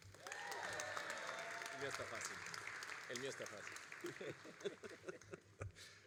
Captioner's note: all applauding and cheering